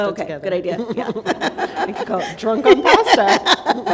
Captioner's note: laughter